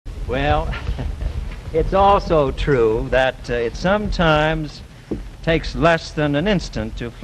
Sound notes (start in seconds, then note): 0.5 laughs